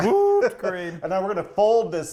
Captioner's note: laughing